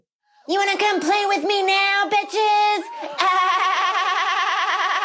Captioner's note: laughs